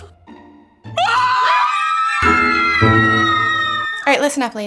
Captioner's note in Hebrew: צרחה